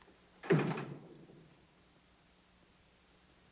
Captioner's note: door closes